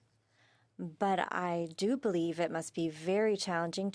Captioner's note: speaking French